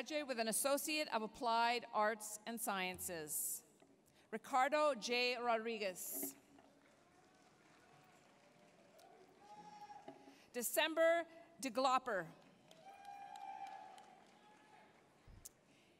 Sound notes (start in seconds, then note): 6.7 applause, cheering; 12.4 applause, cheering